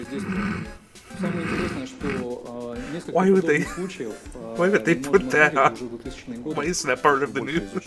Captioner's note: Russian; laughter; wheeze; laughing